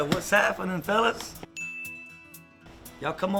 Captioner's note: ding